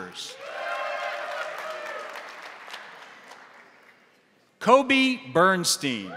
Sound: crowd cheering; crowd applauding

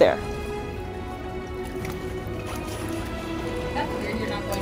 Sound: background music; gentle water splashing noises; background music

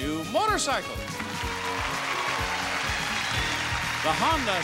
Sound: audience applauding

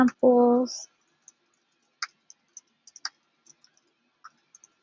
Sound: keyboard clacking

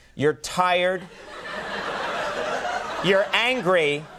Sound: laughter

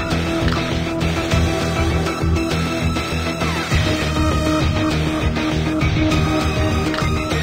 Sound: signal disturbance

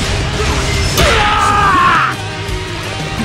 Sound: KO Scream

